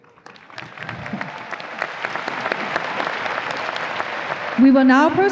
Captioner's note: audience applause